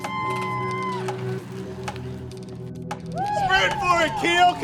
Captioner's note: spectators cheering